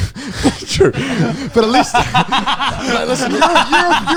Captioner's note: all laughing